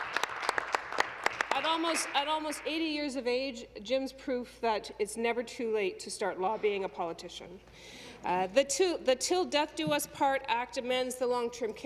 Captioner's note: applause